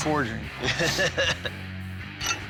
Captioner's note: laughs